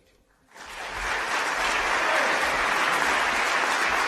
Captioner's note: applause